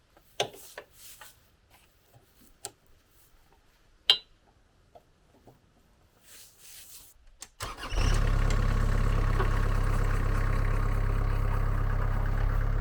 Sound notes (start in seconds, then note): 7.6 engine starting